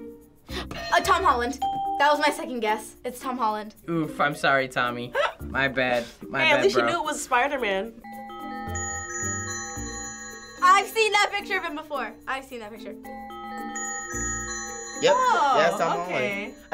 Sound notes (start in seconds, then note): 0.5 gasps; 1.6 ding; 8.0 bells tinkling